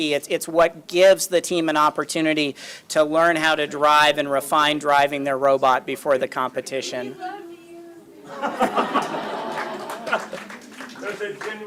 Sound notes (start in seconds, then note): 8.2 laughter; 8.9 applause